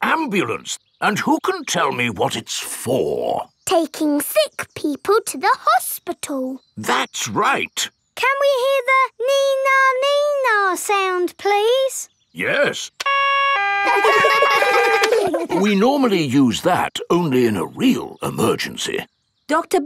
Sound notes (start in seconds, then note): 13.0 siren stops; 13.0 siren wailing; 13.8 kids laugh